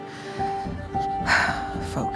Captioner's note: sighing